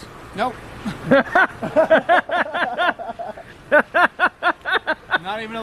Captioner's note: laugh